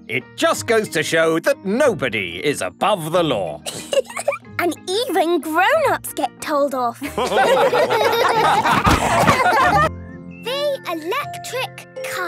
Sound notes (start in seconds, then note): 7.0 all laughing